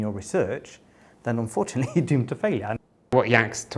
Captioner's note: laughter